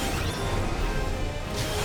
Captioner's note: none